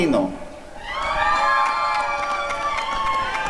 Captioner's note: applause and cheering